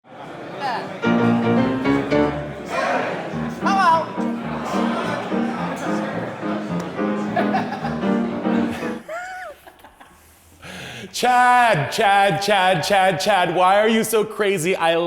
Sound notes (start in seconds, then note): 1.0 jaunty piano music; 5.2 crowd replying